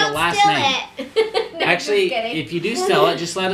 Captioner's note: laughs